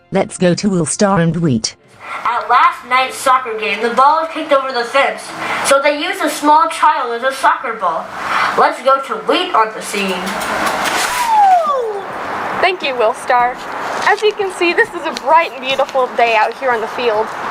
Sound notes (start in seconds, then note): 8.2 breathe in; 10.0 clicking noises in the background